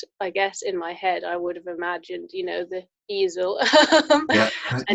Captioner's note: laughs